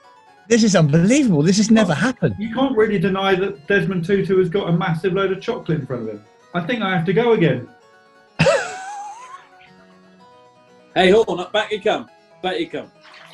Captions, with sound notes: This is unbelievable, this has never happened! You can't really deny that Desmond Tutu has got a massive load of chocolate in front of him. I think I have to go again. [SNIGGERING] Hey, Horne – back you come. Back you come.